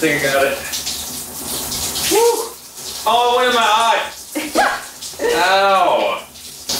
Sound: laughing

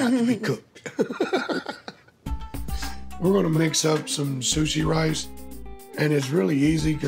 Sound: laughs

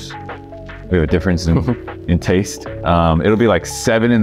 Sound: laughing

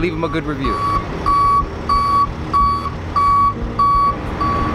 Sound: tow truck beeps

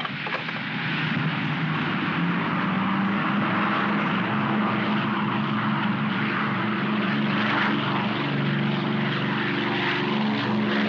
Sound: aircraft rumbles

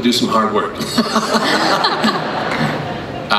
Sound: crowd laughs

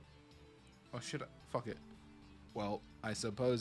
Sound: in a really bad Robotic Voice

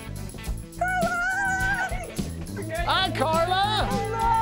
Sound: screaming

